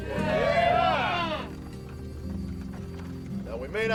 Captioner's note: gang cheering